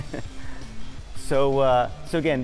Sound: chuckles

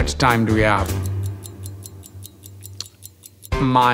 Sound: clock ticking rapidly

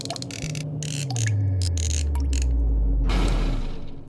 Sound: machine hums

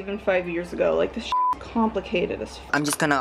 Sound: beep

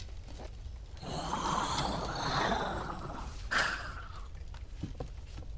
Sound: feral growl

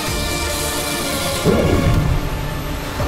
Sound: whooshing sound

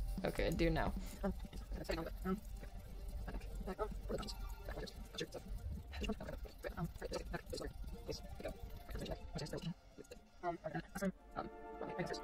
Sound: sped-up footage sounds

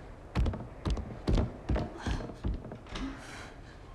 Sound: footsteps

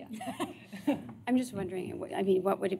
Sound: laughter

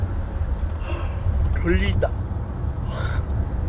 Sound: yawns

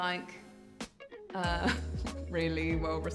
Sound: chuckles

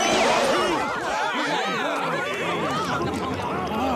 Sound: clamoring

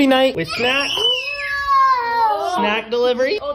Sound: screaming

